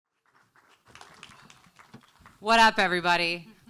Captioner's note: audience applauds